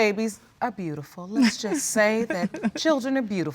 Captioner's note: laughs